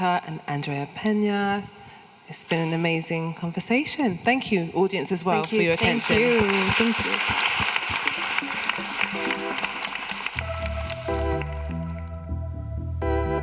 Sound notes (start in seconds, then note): 7.7 audience applauding; 10.8 gentle music